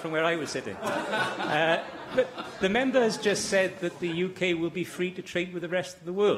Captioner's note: laughter